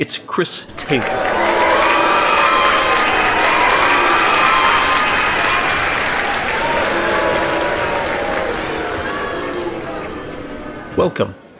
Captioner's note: cheering / booing / applause